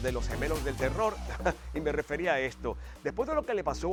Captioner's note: laugh